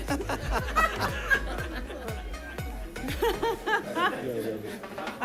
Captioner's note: board members laughing